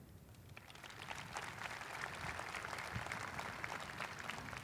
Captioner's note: audience applauding